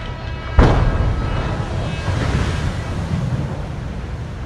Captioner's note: water crashes